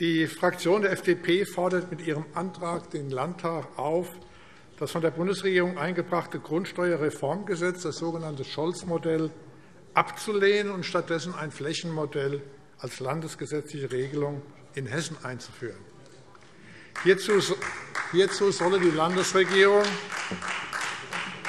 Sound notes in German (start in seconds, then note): 14.9 Beifall Freie Demokraten